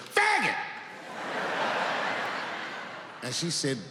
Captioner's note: audience laughs